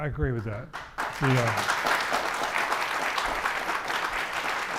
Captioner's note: audience applauding